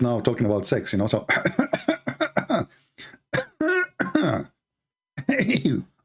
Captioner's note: Ketawa